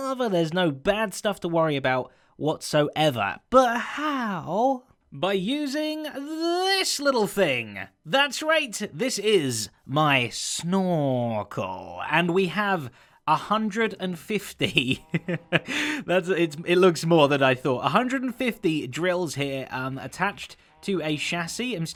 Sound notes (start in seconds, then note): 14.5 chuckles